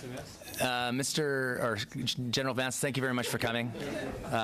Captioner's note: laughter